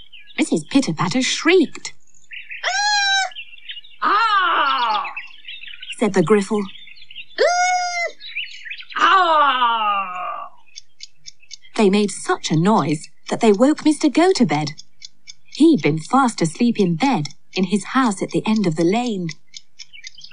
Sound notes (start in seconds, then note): 4.0 sound Of Woman Shrieking; 7.2 Mrs Pitter-Patter And Griffle Trade Cries Of Pain And Alarm